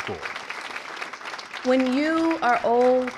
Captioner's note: applause